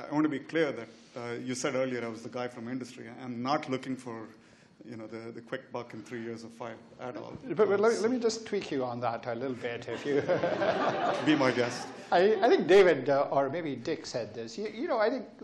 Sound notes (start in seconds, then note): 9.9 laughs